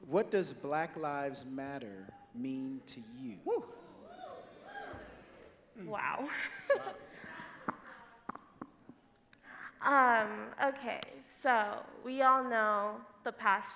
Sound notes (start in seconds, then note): 5.3 audience wooing; 5.8 laughs